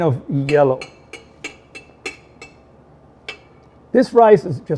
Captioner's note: clanking sound